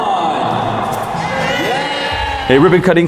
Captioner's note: crowd cheering